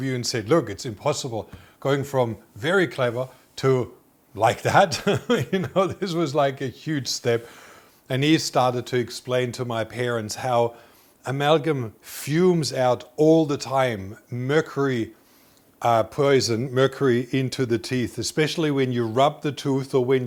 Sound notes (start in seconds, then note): 4.6 chuckling